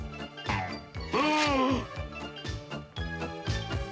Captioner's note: gasps